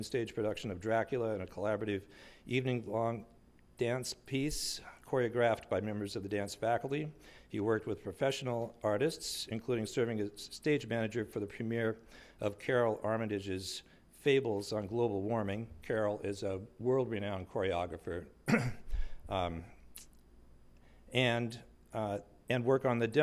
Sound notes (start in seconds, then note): 13.3 clears throat